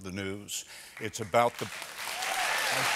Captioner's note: applause